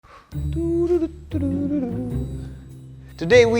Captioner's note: hums